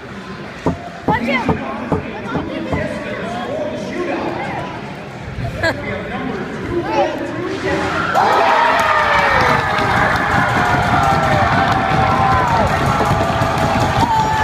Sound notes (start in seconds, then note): 7.9 cheering